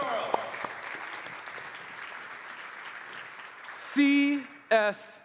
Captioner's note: applause